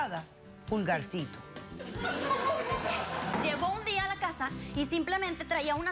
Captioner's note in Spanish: risas